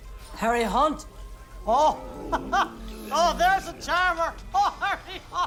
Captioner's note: laughs